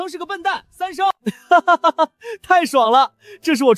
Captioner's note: Three laughs